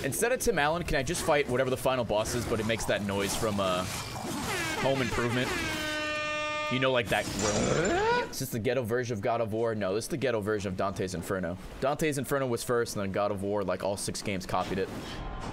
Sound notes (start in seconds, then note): 4.4 air horns